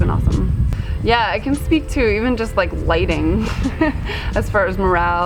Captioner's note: chuckles